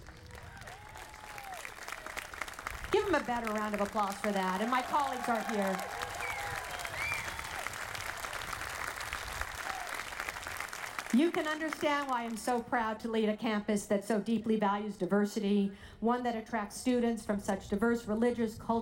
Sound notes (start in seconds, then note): 0.1 audience applauding; 6.8 audience applauding loudly